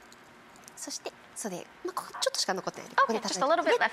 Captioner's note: speaking foreign language